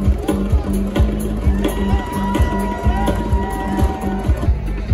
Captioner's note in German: Rhythmische Live-Musik; Jubel der Menge